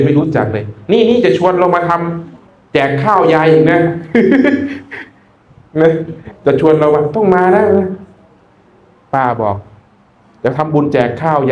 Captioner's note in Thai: เสียงหัวเราะ